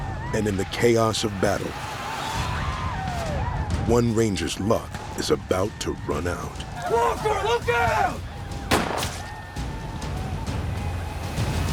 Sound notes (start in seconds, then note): 8.6 gunshot